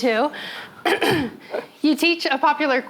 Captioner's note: coughs